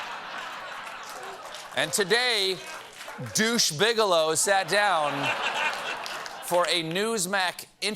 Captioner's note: laughter